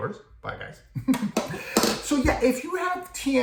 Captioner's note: laugh